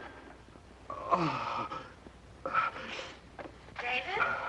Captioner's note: groaning